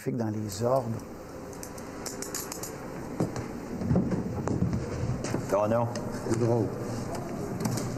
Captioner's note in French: cliquetis de menottes